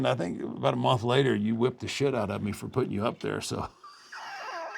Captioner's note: laugh